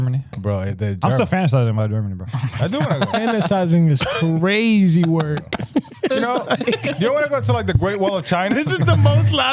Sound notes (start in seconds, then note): 6.0 laughing